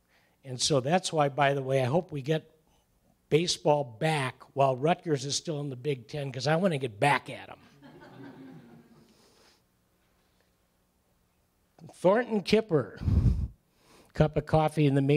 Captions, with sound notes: And so that's why, by the way, hope we get baseball back while Rutgers is still in the Big Ten because I want to get back at them. [laughter] Thornton Kipper, a cup of coffee in the Majors